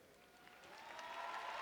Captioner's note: cheers and applause